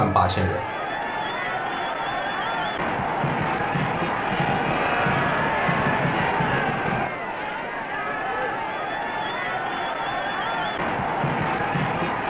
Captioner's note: cheers and applause